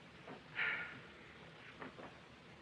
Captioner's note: sighs